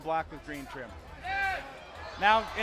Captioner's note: crowd yelling